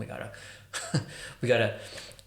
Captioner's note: laughing